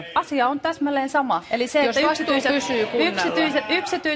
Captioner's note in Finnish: Vastalauseita